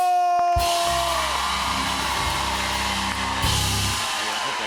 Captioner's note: cheers and applause